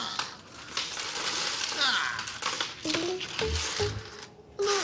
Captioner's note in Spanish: Tintineo de las monedas